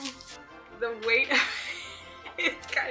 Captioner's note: laughs